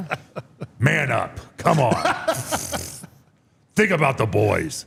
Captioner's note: Paul laughing